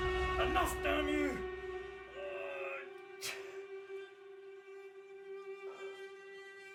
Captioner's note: eerie discordant music; groaning in pain